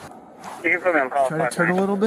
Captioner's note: radio chatter